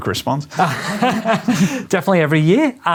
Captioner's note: laughing